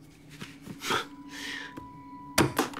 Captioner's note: scoffs